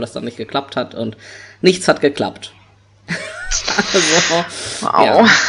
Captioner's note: laughs